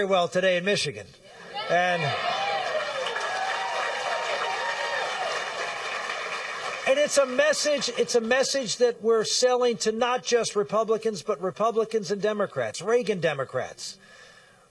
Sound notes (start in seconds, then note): 1.5 cheering and applause